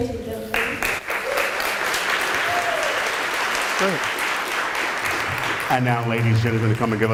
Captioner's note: applause